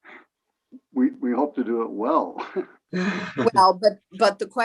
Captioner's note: laughs